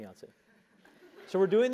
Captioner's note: laugh